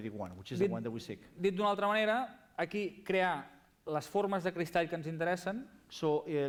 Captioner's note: non-english speech